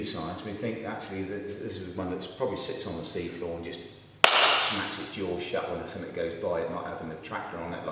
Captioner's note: claps